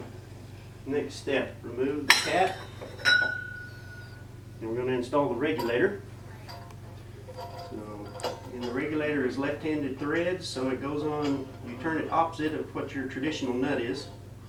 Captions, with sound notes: Next step, remove the cap, [ding] and we're going to install the regulator. So, in the regulator is left-handed threads, so it goes on... you turn it opposite of what your traditional nut is.